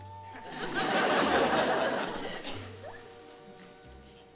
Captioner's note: laughter